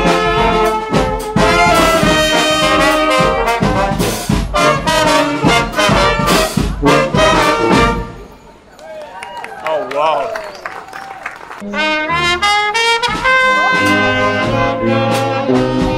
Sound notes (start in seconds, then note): 8.7 applause